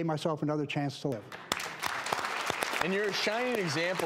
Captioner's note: applauding